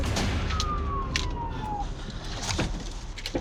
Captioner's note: sirens wailing